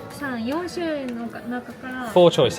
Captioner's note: cast member speaking Japanese